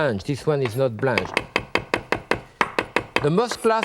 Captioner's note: knife chopping